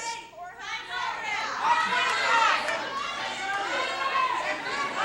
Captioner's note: audience clamoring